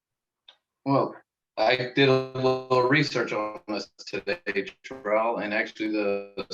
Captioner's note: audio blurs